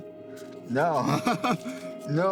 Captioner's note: laughs